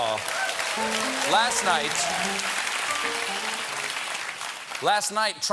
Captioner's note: applause